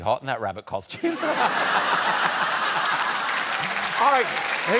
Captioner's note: laughter